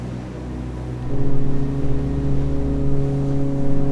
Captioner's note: foghorn sounding